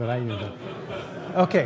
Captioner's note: laughter